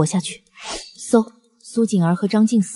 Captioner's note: whoosh!